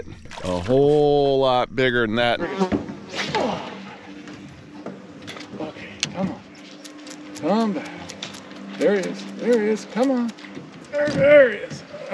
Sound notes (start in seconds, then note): 3.0 rod whipping; 4.1 reel spinning